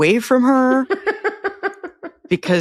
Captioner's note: laughs